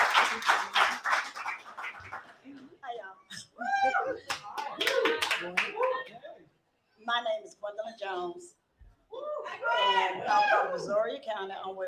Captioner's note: applause